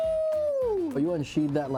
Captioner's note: screaming